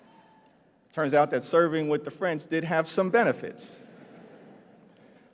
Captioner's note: laughter